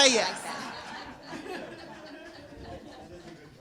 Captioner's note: laughing